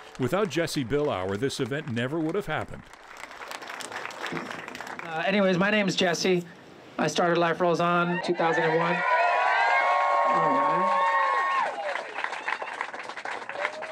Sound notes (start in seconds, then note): 2.8 applause; 8.0 cheering